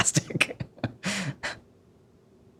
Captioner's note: laughs